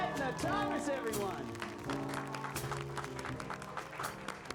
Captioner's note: applause